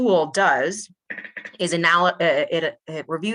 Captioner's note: chair squeking